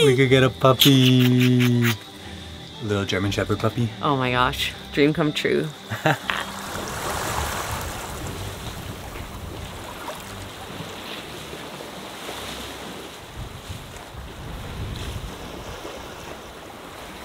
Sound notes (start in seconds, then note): 0.9 lips smacking; 5.8 laughs; 7.0 water gently rushing; 13.8 waves gently crashing